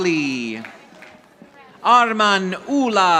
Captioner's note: audience applauding